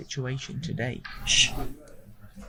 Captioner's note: shhhh!